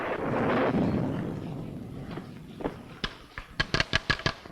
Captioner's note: thunder rumbling